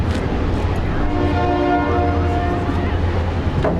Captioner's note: train blaring